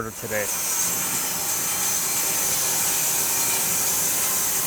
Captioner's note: saw whirs